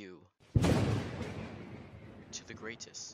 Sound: thunder

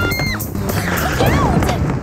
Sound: screams

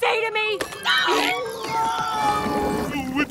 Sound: screaming

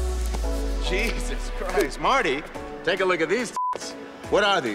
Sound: beeps

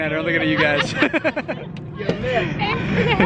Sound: laughs

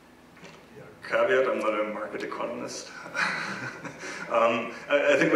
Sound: laugh

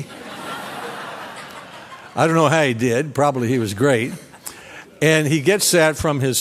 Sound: laughter

